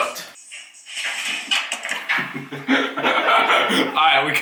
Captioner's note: laughing